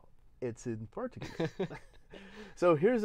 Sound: laughs

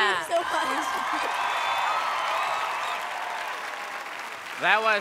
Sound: crowd cheering

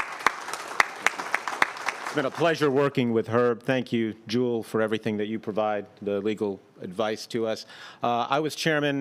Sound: applause

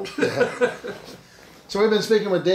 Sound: laughing

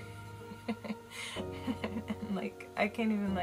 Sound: laughs

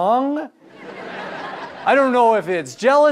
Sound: audience laughter

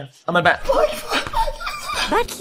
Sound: cries

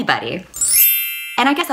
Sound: chime

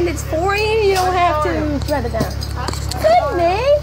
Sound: seat belt falls on seat; yelling

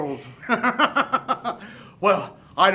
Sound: laughs

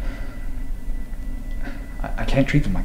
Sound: sighs

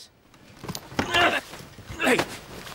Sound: Lex grunting

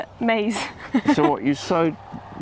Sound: laughs

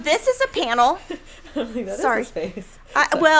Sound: laughing

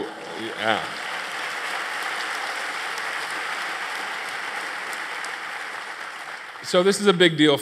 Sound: applause

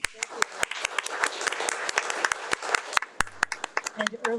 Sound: audience applauding

